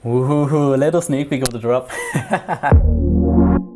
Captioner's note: dramatic laughs; gentle music